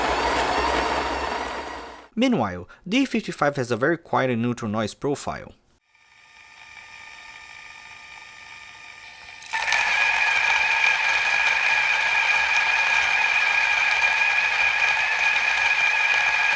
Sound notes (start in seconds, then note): 9.0 cut to the E55 making noise